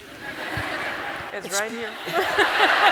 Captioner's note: applause